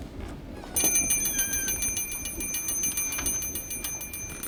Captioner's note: bell rings